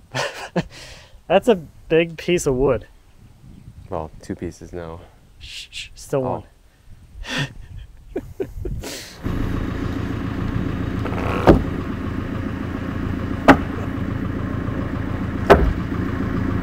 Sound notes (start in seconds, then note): 7.2 laughing; 9.1 engine running; 13.4 wood banging